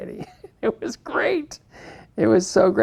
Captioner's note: laughs